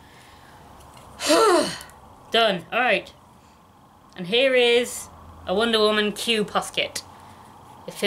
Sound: sighs

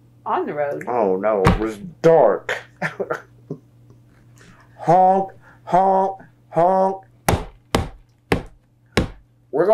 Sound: imitates knocking

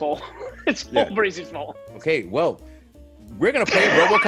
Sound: laugh; laugh

